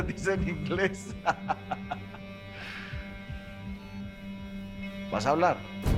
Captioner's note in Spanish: Risas